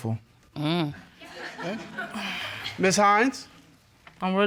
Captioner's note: audience laughing